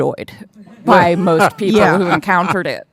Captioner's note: audience laughing